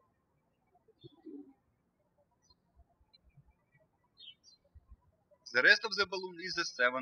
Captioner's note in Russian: птички щебечут